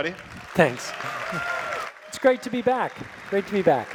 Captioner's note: audience applause